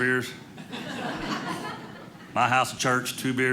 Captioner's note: audience laughing